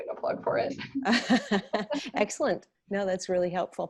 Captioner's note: laughs